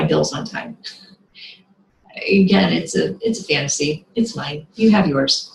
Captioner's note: laughs